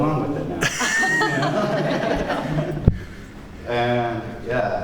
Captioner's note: laughter